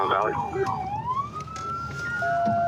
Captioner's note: sirens